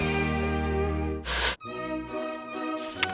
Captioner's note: upbeat Music; Static; classical Music